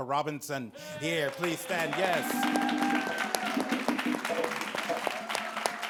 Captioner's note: audience cheers